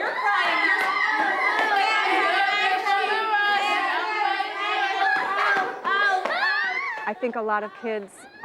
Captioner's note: children making lots of noise